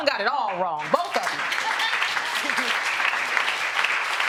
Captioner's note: audience applauding